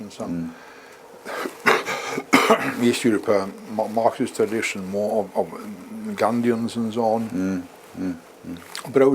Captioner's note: cough